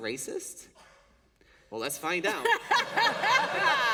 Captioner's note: laughter